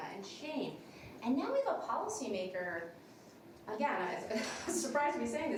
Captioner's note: laughs